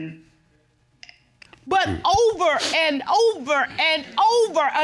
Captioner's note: stammers